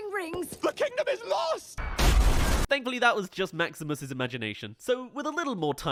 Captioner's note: explodes